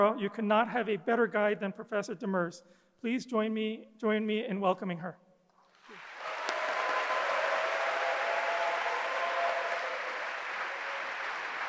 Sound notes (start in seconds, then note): 5.7 audience applauding